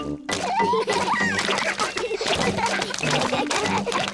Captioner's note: all laugh